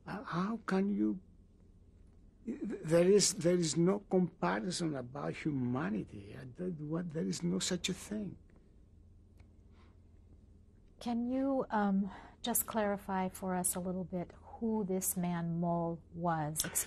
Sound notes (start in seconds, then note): 8.5 pauses for 3 seconds